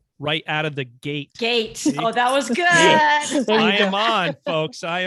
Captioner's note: laughing